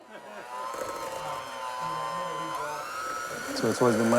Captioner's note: mixer whirring